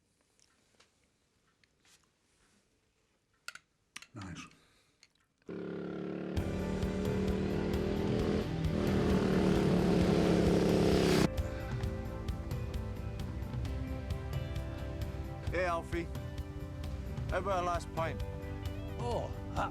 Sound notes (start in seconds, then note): 5.5 engine rumbling; 6.0 upbeat music